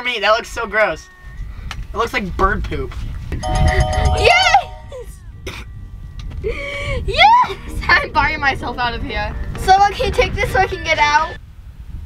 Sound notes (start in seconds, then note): 3.4 bell dinging; 5.6 laughing